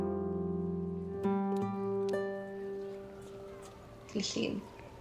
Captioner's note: sirens passing. sounds of a busy street